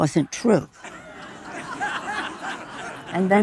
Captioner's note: audience laughing